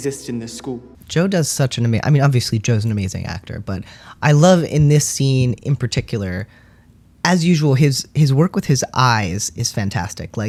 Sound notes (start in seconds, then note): none